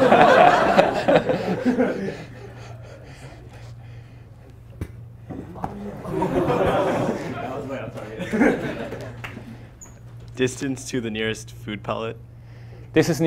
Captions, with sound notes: (class laughs) (class gasps) - That was way off target. Distance to the nearest food pellet?